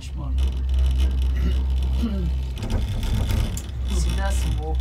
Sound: clears throat

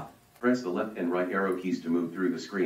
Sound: voiceover

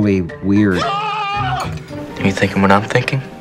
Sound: man yells

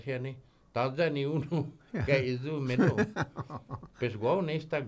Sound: laughing

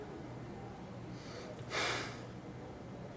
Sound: sighing

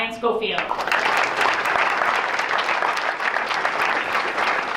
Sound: applause

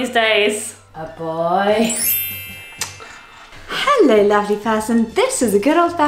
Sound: chimes tinkling; gentle orchestral music

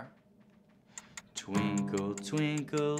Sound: timer ticking

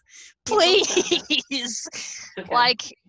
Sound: laughs

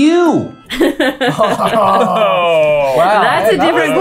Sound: laughter

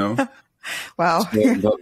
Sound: laughs

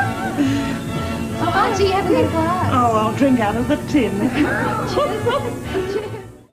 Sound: laughter

